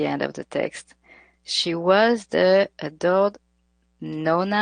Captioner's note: speaks in foreign language